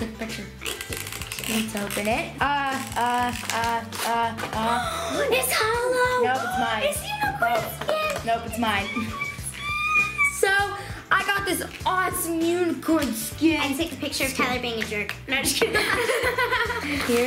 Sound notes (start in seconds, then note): 4.7 gasps; 15.7 laughing